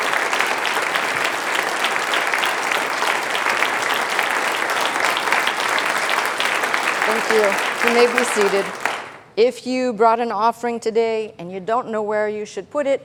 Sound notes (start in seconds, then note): 0.0 applause